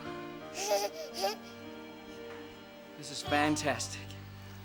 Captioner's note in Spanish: balbuceo del bebé